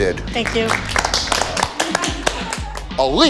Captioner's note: clapping